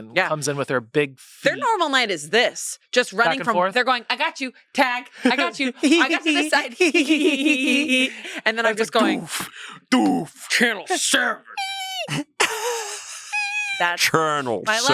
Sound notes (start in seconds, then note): 5.2 pair laughs; 8.9 makes sound effects; 11.6 laughs